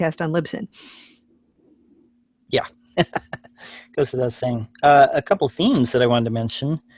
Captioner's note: laughs